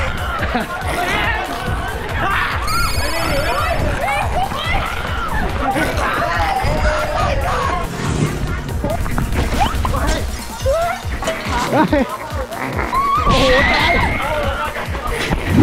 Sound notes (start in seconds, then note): 2.1 screams